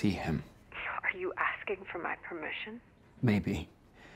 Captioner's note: on phone